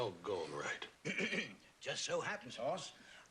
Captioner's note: clears throat